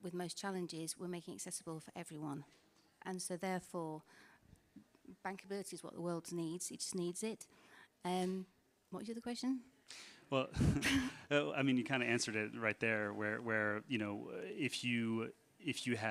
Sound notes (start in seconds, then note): 10.4 laughs